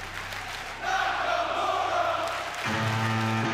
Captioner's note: fans chanting